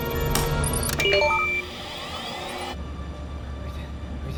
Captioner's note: alarm blaring